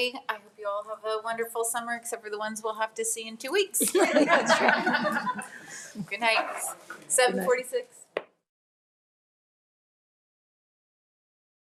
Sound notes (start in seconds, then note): 3.8 people laughing